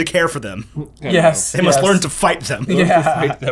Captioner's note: laughs